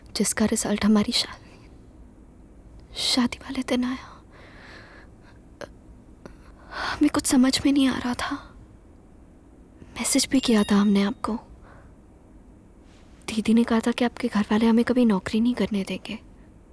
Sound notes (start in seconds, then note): 10.2 Phone chimes